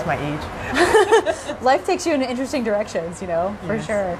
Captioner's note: laughter